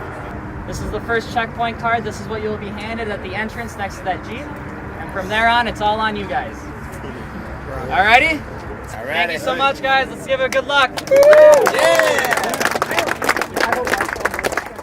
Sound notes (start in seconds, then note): 10.9 clapping